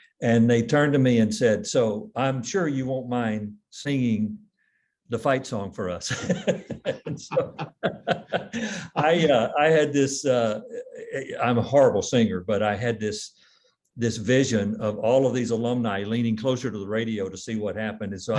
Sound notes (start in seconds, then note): 6.1 laughs